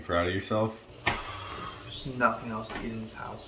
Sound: sighs

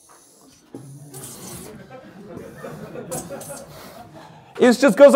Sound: laughter

